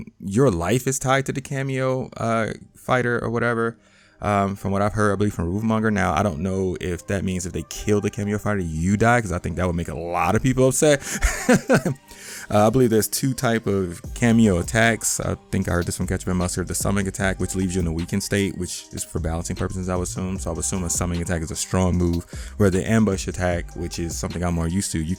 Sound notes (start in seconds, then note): 11.0 laughing amusingly